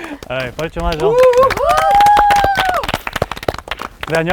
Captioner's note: A warm welcome with applause